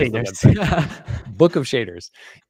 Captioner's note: laughs